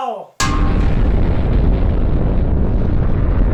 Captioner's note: ding!; massive explosion; massive explosion continues